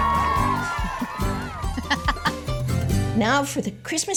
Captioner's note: laughing